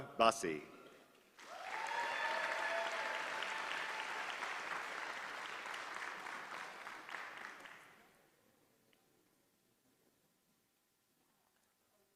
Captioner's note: applause